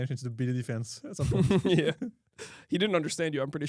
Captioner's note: laughs